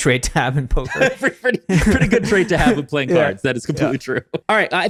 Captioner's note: laughs